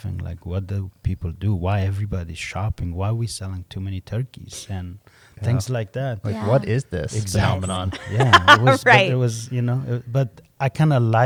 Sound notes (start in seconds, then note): 8.8 laughs